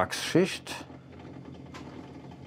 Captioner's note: creaks